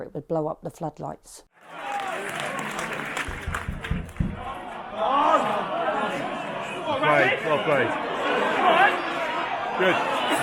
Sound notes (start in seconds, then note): 1.6 fans cheering; 1.6 fans clapping; 6.2 fans shouting